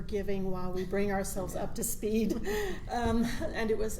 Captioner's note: giggles